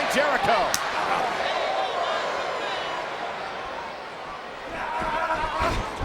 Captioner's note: crowd exclaiming; arm slaps; Swagger yelling